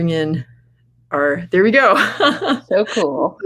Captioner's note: laughing